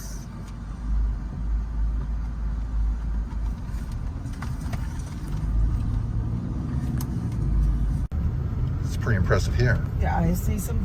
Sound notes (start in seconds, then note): 1.2 wind softly passing